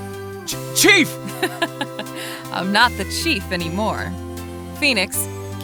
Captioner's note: laughing